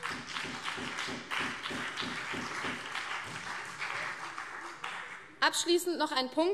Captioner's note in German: Beifall CDU und BÜNDNIS 90/DIE GRÜNEN